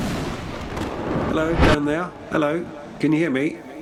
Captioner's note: lightning strike